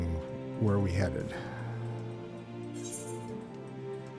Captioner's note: sigh